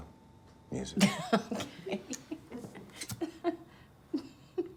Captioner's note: laughs